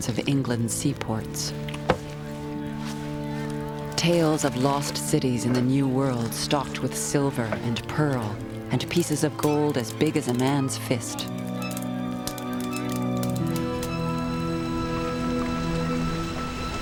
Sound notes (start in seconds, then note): 12.9 swinging pot squeaks